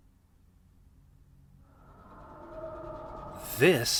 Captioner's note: wind howling